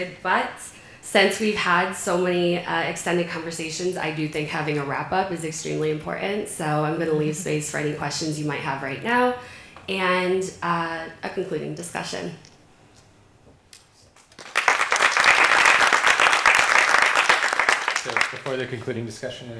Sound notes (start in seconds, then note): 14.2 appaluse